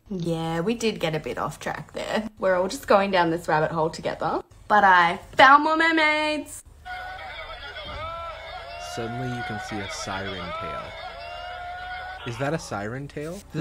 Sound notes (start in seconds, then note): 6.8 background yelling